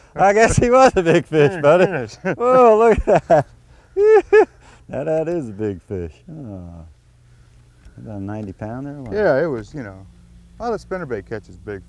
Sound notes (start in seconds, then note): 3.7 laughter